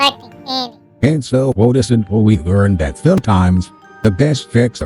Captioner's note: voiceover